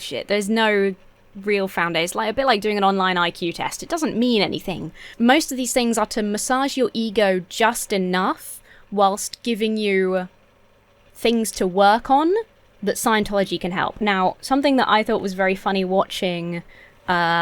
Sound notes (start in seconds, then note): none